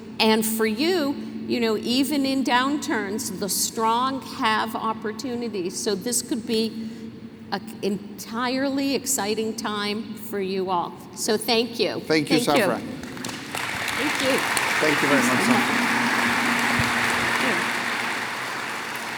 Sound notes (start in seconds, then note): 13.3 applause